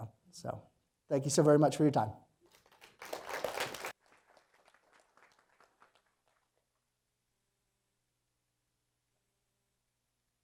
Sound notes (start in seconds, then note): 2.4 applause